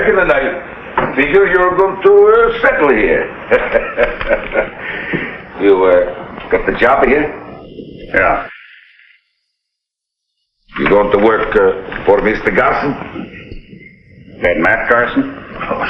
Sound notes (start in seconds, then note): 3.5 barber chuckles